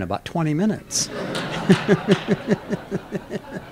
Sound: laughter

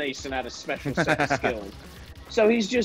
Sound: laugh

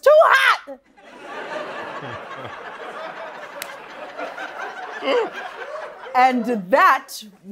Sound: laughter

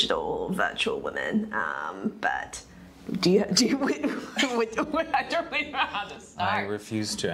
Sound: laughs

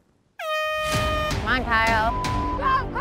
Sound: horn honking; beep

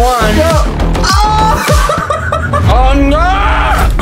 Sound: giggling

